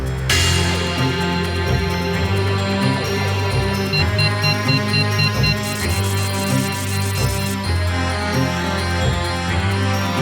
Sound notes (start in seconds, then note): 0.2 intense music; 3.8 electronic beeps